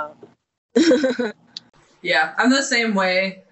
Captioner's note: chuckling